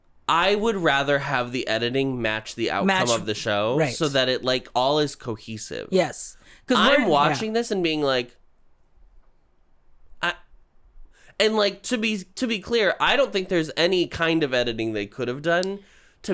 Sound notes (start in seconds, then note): 8.6 silence